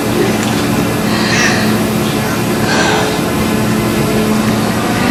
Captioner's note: Marita sighs